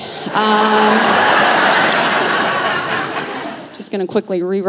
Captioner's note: laughter